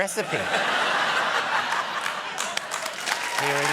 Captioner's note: laughter